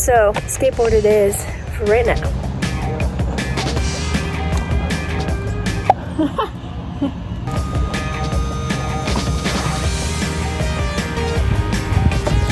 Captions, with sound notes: so skateboard it is for right now. (upbeat music) (laughs) (upbeat music)